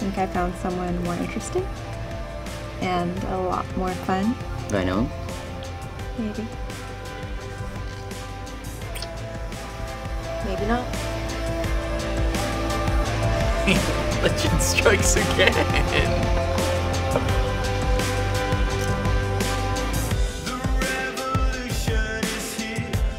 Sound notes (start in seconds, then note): 11.6 upbeat pop music; 13.5 laughs